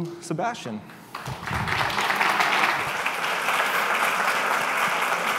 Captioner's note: applause